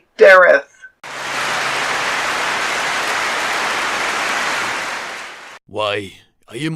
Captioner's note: clapping